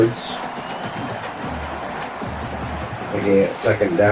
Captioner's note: crowd Noises